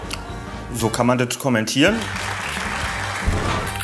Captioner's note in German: Applaus